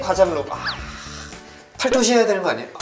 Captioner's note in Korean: 탄 식